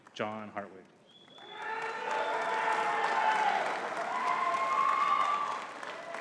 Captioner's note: audience cheering and clapping